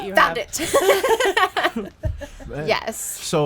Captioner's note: group laughs